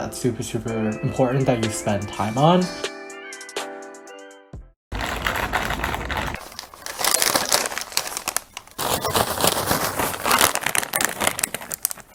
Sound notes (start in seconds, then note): 4.9 crinkle crinkle; 6.8 crinkle; 8.7 shake shake